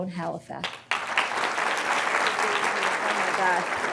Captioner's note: applause